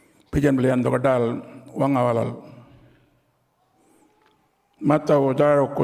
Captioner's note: continues to speak native language